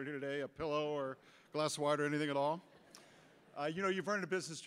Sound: audience laughter

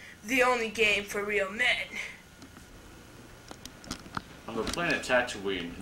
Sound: none

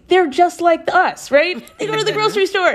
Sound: laughter

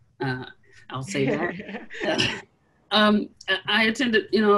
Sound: laughs

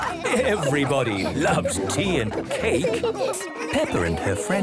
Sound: all laughing

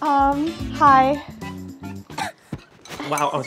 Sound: coughs

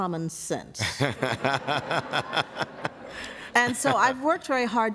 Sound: laughter

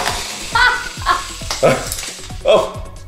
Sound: laughs

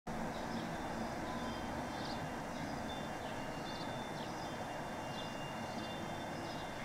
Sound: windchimes and birds chirping

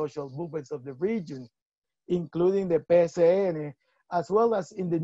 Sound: spanish speech

